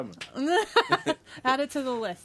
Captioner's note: laughs